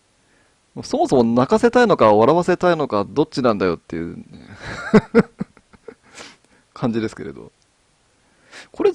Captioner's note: laughs